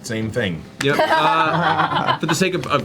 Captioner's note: all laugh